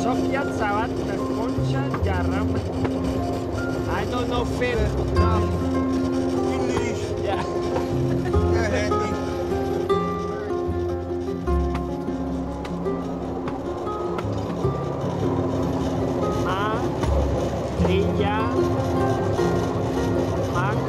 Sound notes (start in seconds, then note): 0.1 speaking in foreign language; 5.3 speaking in foreign language; 9.7 soft instrumental music; 12.8 train chuffing; 16.3 speaking in foreign language